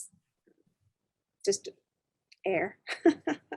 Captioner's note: chuckling